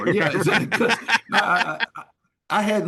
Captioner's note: laughing